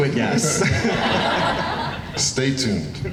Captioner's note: laughing